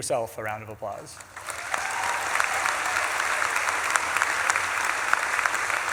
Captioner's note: audience claps and cheers